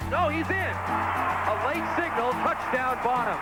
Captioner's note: crowd cheering